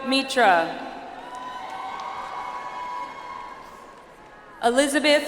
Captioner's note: audience applauds